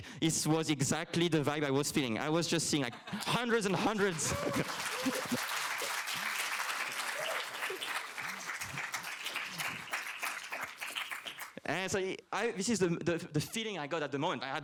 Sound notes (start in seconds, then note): 5.0 applause